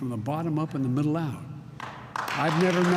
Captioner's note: applause